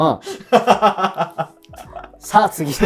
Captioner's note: laughing